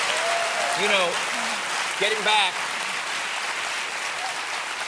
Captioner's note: applause